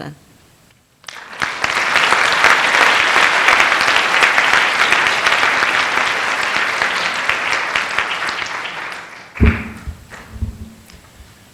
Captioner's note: applause